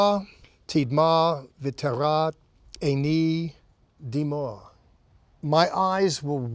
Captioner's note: speaking in Hebrew